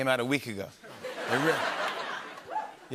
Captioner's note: laughter